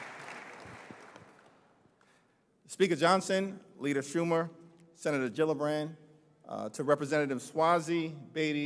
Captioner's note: applause